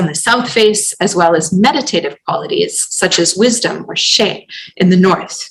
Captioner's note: non-english